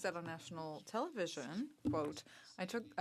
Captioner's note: speaking French